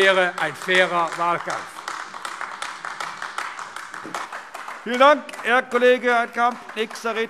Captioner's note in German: Beifall AfD